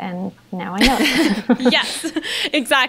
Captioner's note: they laugh